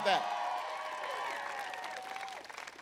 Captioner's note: applause